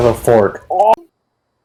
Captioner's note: pufferfish sounds